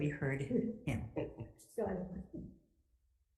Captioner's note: chuckling and chattering